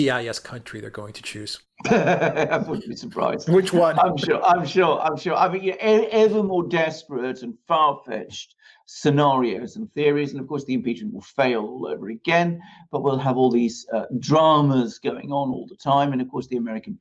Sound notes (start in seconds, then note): 1.8 laughing